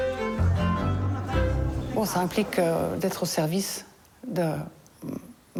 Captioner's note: speaking foreign language